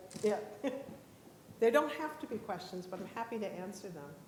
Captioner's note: laughs